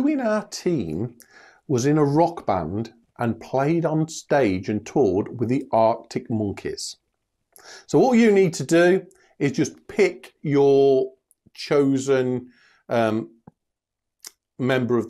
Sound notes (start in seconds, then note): none